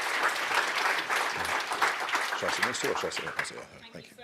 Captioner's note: audience claps